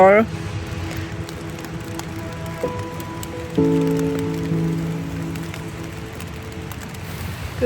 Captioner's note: sound of light rain on the tent